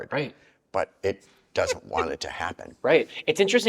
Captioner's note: chuckles